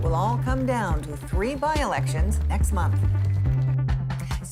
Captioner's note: applause